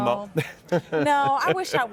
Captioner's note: laughs